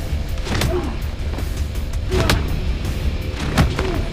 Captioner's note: both grunting